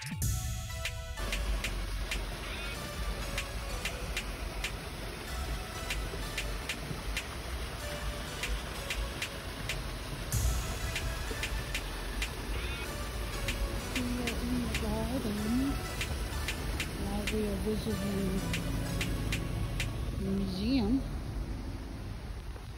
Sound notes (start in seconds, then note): 3.0 water streaming from garden and music continues in background